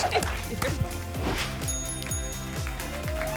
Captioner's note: whoosh; ding, ding, ding; applause and cheering